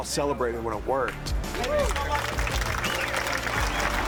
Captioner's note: cheering, applause